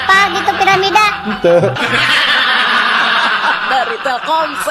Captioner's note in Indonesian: tertawa